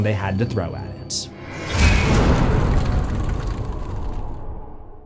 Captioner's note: impact